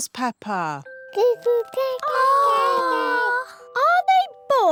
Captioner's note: babies gurgle